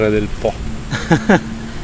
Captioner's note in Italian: risate